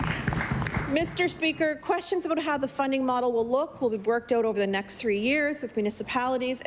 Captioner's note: applause